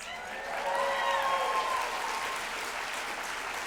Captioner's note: applause